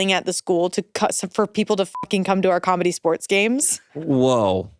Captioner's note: beeps